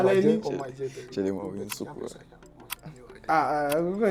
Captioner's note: whispering